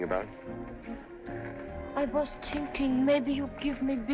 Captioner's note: russian Accent